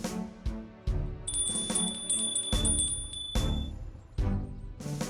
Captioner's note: bell rings